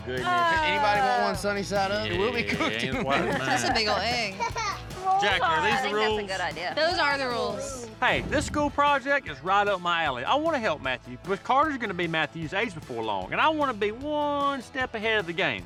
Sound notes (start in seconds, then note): 2.3 everyone laughs